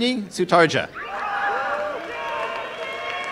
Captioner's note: applause and cheering